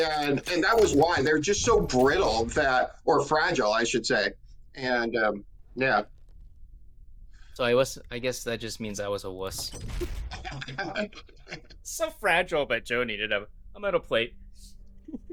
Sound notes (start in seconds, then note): 10.0 laughing